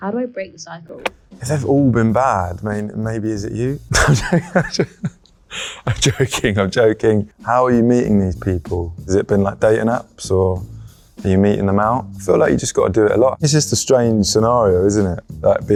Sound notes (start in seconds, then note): 6.8 laughs